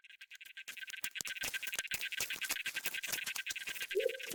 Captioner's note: alien chittering